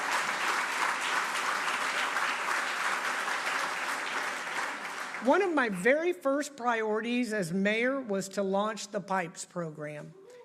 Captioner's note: applause